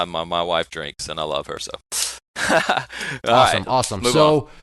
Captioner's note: laughing